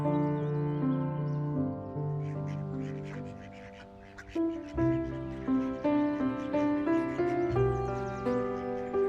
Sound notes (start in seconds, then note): 2.2 ducks quacking; 3.4 peaceful music continues